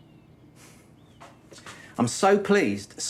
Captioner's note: he chuckles, softly